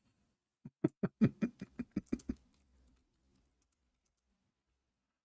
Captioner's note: Ketawa